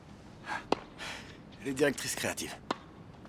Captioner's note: sighs